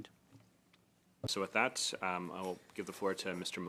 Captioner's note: speaking French